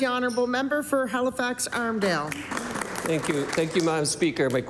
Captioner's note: cheering & Applause